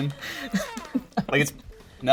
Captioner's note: laughing